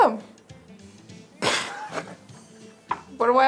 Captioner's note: host laughs